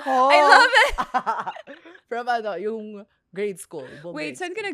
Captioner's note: laughs